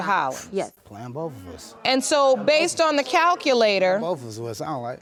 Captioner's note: scoffs